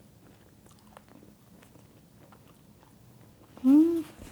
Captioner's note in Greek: μασούλημα